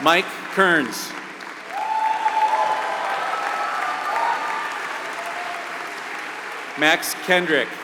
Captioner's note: applause